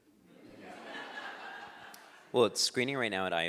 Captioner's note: laughing